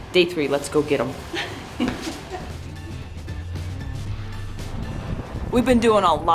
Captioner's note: laughs; upbeat music